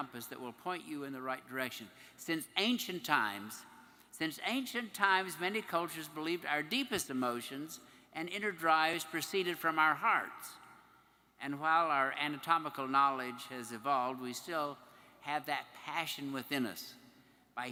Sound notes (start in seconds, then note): none